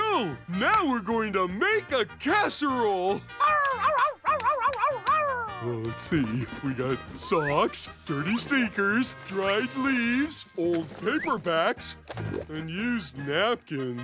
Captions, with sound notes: Now we're going to make a casserole. [cheering] Let's see, we got socks, dirty sneakers, dried leaves, old paperbacks, and used napkins?